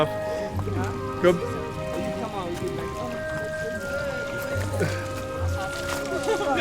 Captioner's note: chuckles